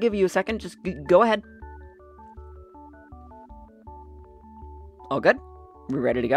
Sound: long pause for emphasis

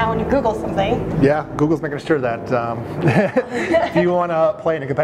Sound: chuckling

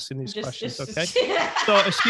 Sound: laughing

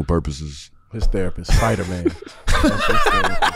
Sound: laughs

